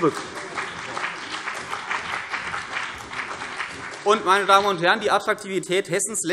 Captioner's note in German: Beifall CDU und BÜNDNIS 90/DIE GRÜNEN